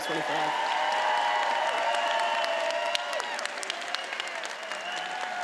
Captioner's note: attendees applauding and cheering